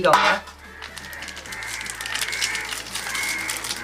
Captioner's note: packets cluttering